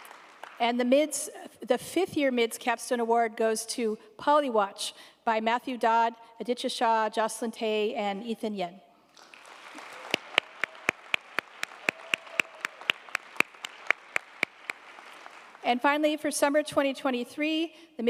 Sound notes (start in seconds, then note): 9.1 audience applauding